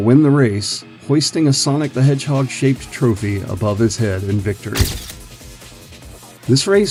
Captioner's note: SFX: camera flash